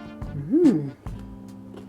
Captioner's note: laughs